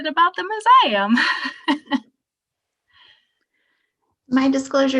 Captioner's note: laughing